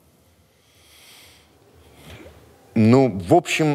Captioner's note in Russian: глубоко вздыхает